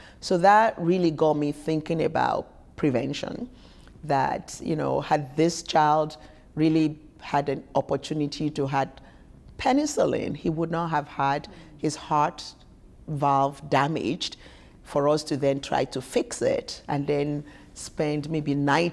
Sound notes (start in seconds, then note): none